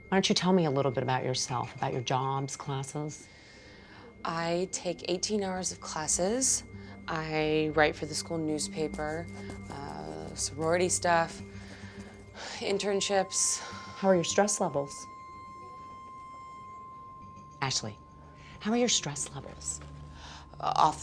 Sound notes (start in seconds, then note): 11.9 sighs; 15.8 piercing electronic tone